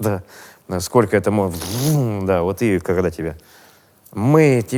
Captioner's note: mimics chainsaw